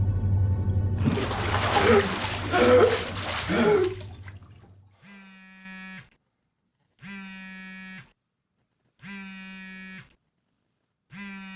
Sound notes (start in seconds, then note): 1.0 water splashing; 1.0 Aiden gasping; 5.0 phone buzzing